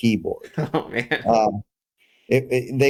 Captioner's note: laugh